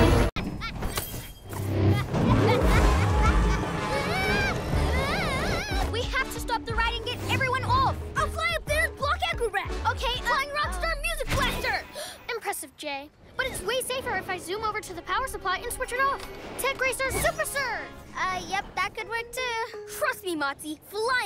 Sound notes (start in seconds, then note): 1.9 evil laughter; 2.7 screaming